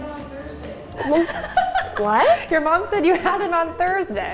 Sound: laughing

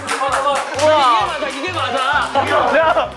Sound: bursting applause

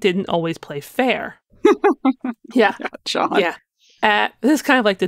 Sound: laughing

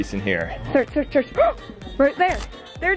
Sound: gasps

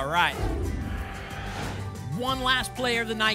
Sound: whoosh

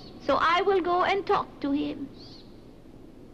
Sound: wind whistles; bird chirps

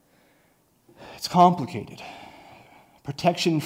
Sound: sighs

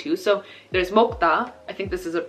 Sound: speaking Korean

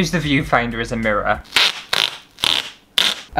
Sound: tape Peeling

